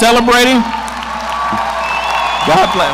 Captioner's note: audience applauding